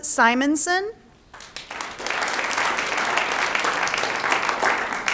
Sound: audience applauds

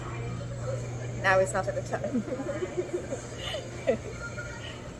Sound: laughs

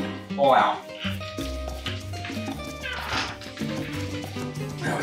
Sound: squeaks

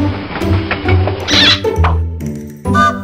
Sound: rail squeaks and pops; train whistle

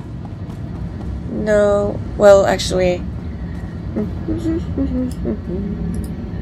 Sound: hums

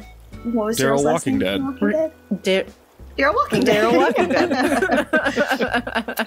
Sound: laughter

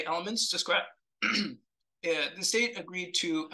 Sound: throat clears

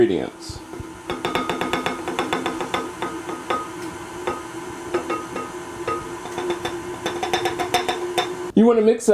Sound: mixing sounds

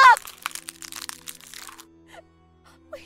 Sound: sobs

